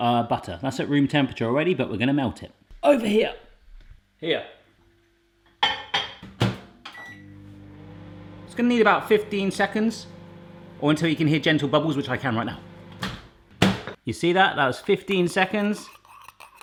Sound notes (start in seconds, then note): 5.0 microwave beeping